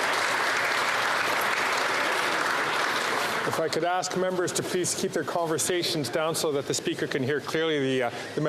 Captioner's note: applause